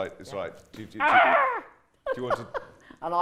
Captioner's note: screams